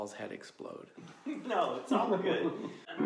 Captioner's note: laughing